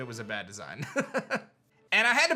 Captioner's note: chuckles